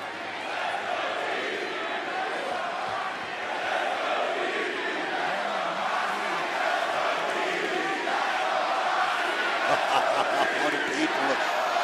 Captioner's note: crowd chants "let's go, gigi"; crowd chants "let's go, roxy"; laughs